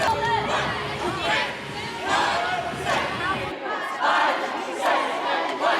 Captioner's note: cheerleaders chanting